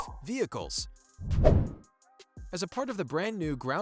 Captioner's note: playful whoosh